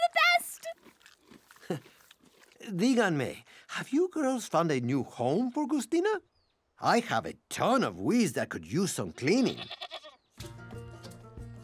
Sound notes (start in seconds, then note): 1.5 laughs; 2.3 non-english speech; 9.1 bleating